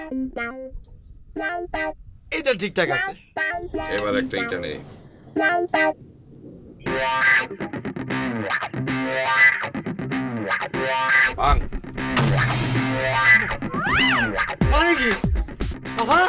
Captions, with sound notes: This seems okay Now pick a brick Break it! (Snaps) What the hell!